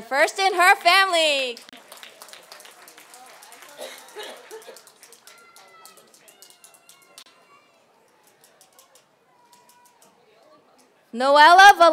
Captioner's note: applause